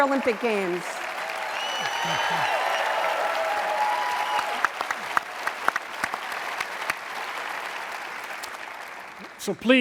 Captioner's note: applause